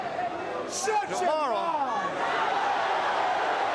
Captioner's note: crowd cheering